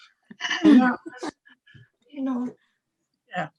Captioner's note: laughs